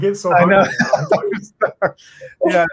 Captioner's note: laughs